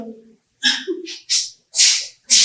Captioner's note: laughs